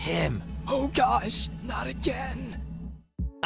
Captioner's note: whispering